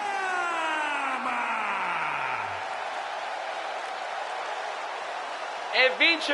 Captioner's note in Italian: urlo